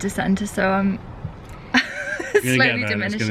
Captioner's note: laughing